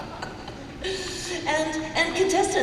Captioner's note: laughter